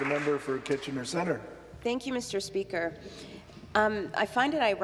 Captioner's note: some applause